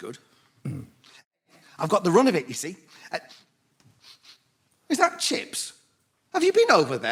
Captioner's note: sniffs; sniffs